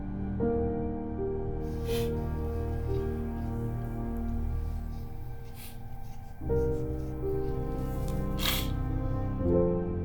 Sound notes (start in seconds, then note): 1.7 sniffling; 3.7 slow music continues